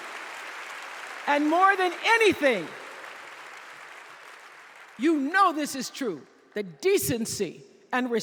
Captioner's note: applause